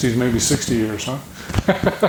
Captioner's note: chuckling